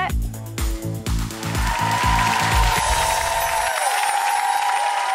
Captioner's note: audience cheers and applauds